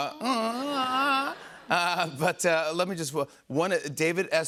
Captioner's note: laughter